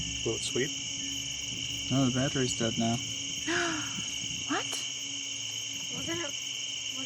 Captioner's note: gasping